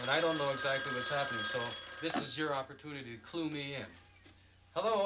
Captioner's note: phone rings